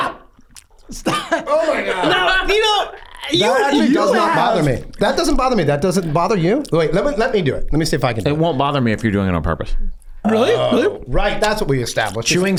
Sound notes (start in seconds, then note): 0.2 Glenn chewing